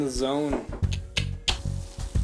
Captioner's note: clicking his tongue